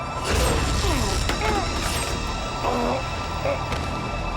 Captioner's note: man grunting